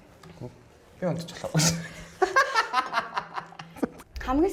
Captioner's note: laughs